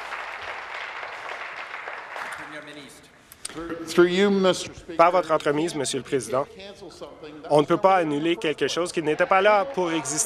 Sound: applause

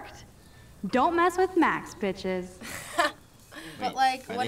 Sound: snickering

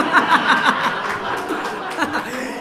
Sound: laughter

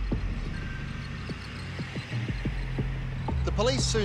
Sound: ominous music; birds squawk

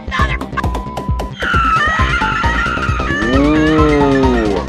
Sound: more screaming

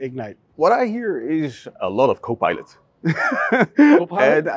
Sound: chuckling

